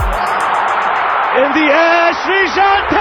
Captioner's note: crowd cheering